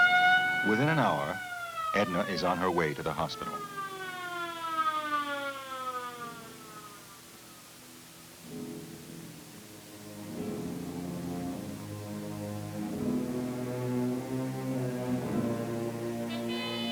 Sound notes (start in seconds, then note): 0.0 ambulance siren blaring; 3.8 siren fades; 8.6 suspenseful music